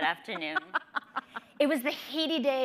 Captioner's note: laughing